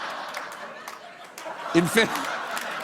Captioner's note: laughter